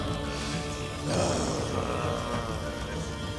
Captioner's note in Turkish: Nefes sesi